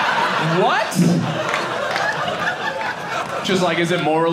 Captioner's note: audience laughing